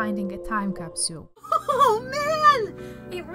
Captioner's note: laugh